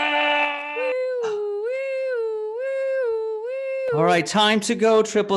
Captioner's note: imitates siren